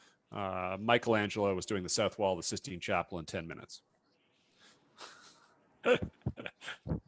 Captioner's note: laughs